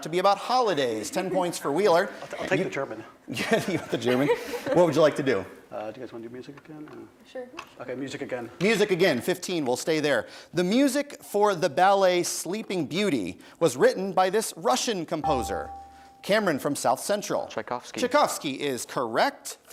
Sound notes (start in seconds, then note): 3.6 laughs; 15.2 bell rings